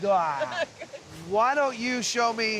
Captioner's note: laughing